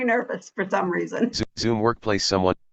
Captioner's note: chuckles